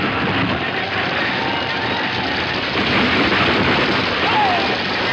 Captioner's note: wagon rumbling